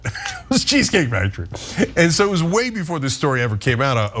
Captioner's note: laugh